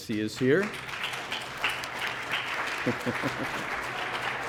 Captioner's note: applause